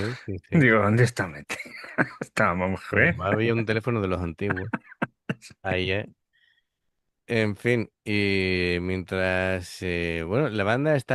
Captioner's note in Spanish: risas; risas